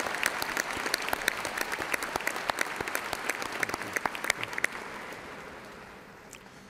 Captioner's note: cheers and applause